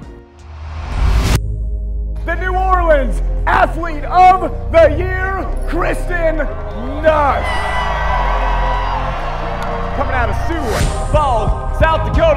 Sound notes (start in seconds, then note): 0.3 dramatic music; 6.5 crowd cheering